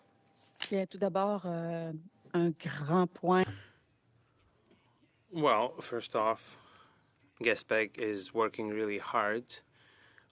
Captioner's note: speaking French